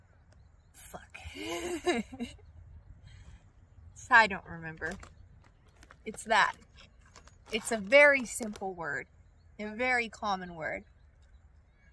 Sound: laughs

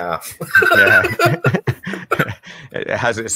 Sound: laughs

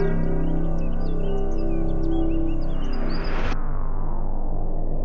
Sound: birds chirping; dark, menacing music

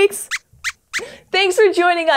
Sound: squeaks squeaks

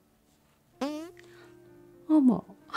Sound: tiny fart noise

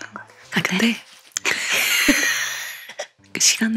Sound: laughing

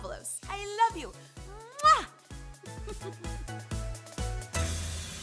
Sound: giggles

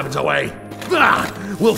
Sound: blaurghh!

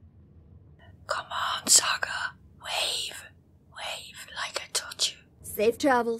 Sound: whispers

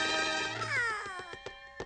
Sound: all exclaiming

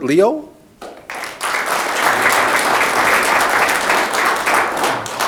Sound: audience clapping

